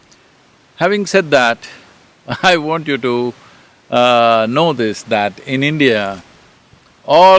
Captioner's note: laughs